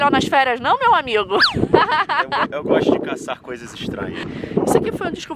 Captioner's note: laughs